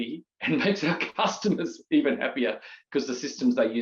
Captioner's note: chuckles